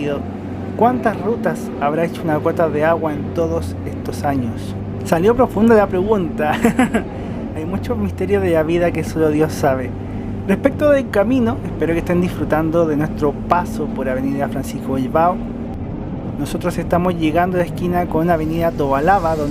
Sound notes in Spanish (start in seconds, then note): 6.4 risas